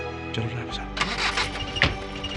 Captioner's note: car Engine Start